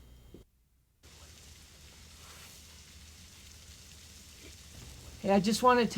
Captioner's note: rain pattering